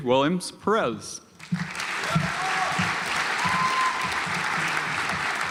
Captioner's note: audience applauds